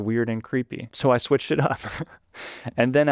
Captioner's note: laughs